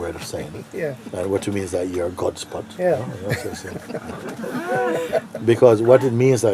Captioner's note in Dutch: gelach